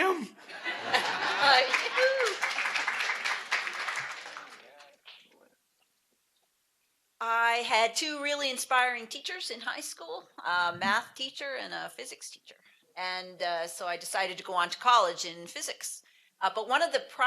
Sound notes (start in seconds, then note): 1.0 applause